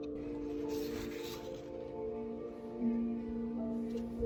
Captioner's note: ethereal music; pages turning; ethereal music; pages turning; ethereal music